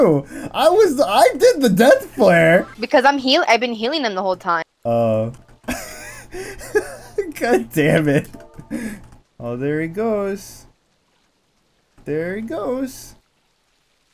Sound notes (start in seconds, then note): 5.6 laughing